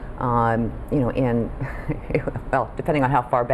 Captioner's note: laughs